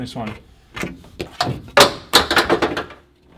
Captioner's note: clattering